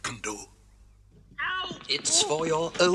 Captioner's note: Toad struggles